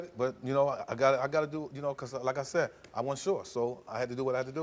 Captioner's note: stutters